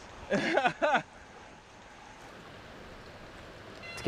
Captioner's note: laughs